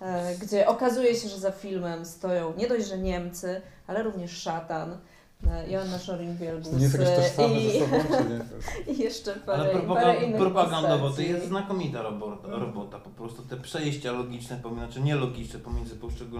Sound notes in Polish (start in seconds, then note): 7.6 śmiech